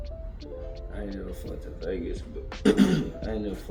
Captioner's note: clears Throat